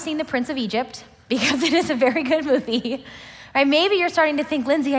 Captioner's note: laughs